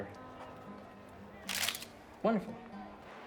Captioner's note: camera clicks